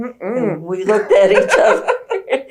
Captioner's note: laughs